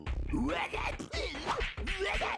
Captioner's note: gibbering